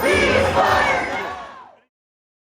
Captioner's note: crowd chanting: Ceasefire now!